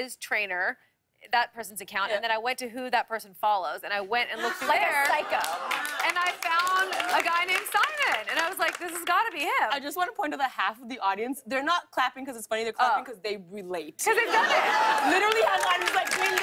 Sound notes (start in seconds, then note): 4.6 applause; 14.4 cheers and applause